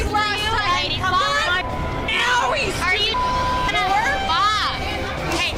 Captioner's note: bar chatter